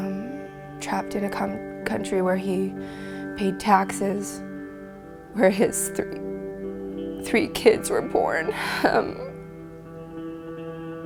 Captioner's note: crying